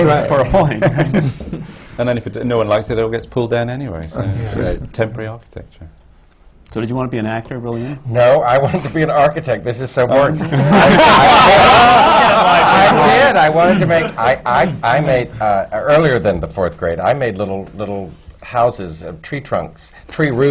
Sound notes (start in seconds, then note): 0.6 laughter; 10.3 laughter